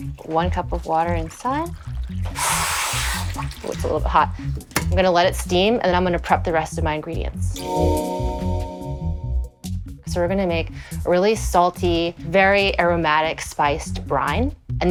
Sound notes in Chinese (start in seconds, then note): 2.3 滋滋聲